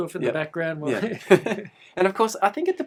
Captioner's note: laughter